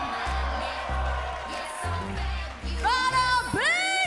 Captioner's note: cheers and applause